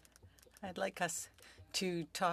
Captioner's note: speaking French